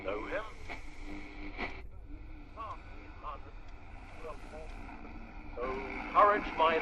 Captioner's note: radio fades, static